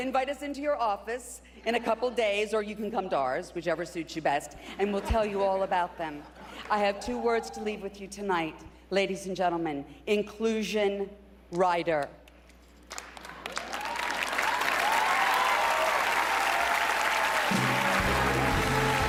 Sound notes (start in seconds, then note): 9.6 cheering and applause